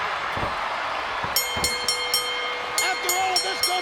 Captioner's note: bell dinging